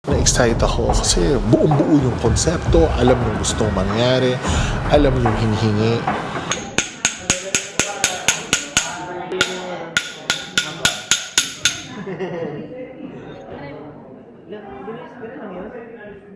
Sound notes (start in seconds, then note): 6.5 hammer clanging; 11.8 background laughter